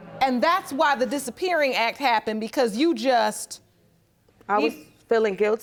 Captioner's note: none